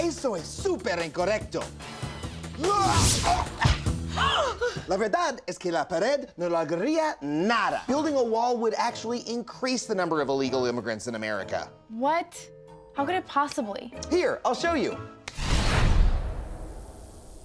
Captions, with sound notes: (Adam grunting) (women gasping) increase the number of illegal immigrants in America. What? How could it possibly? Here, I'll show you.